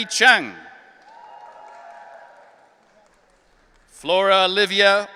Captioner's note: audience cheering